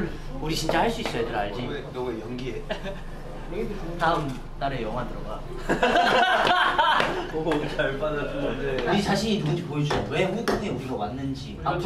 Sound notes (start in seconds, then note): 5.5 laughing